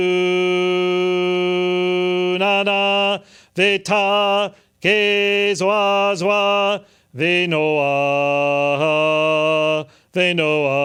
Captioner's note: Arcturian chants in an ancient tongue